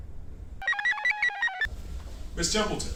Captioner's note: computer chirps